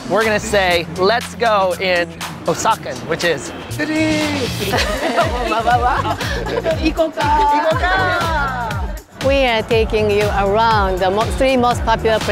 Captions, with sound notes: We're gonna say "let's go" in Osakan, which is (yells in Japanese) (woman laughs) (women speak Japanese) - We are taking you around the most popular